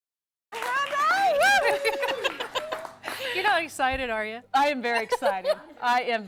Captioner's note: �applause�